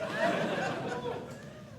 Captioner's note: audience Laughing